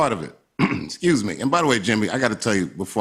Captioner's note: clears throat